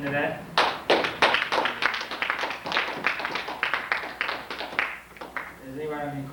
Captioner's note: applause